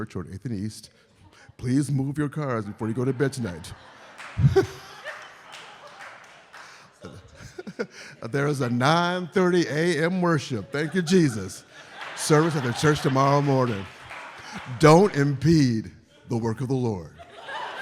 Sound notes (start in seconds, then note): 5.5 laughs; 6.5 audience laughs; 14.2 audience laughing and applauding; 17.2 audience laughs